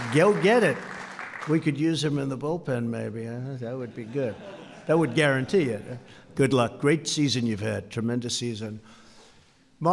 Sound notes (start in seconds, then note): 3.8 laughter